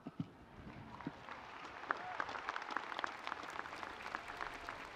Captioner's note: audience applauding